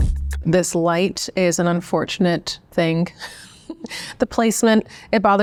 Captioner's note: light music; chuckles